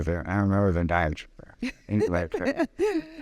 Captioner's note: laughing